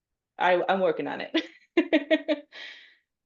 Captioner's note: laughs